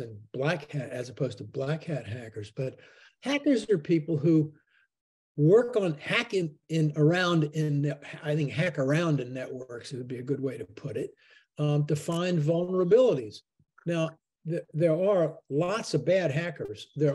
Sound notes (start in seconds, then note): none